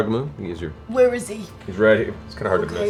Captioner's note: Grog voice